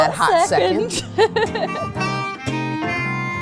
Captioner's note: laughs